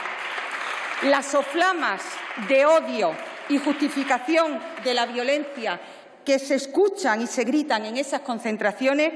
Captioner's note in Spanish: Aplausos